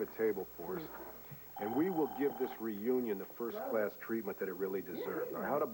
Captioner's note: thone rings